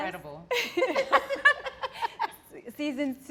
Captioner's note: laugh